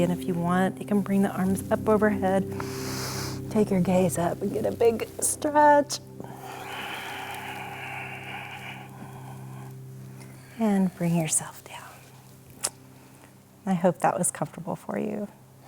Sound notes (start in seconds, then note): 2.5 inhale; 6.2 exhale